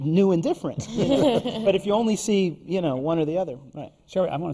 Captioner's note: laughter from the panel